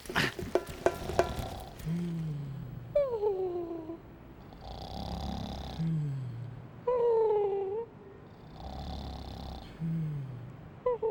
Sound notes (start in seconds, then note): 1.0 snoring and cooing